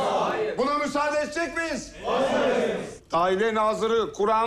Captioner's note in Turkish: Hep bir ağızdan; Hep bir ağızdan